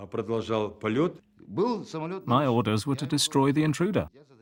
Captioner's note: speaking Russian